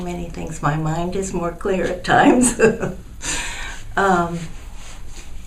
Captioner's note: laughs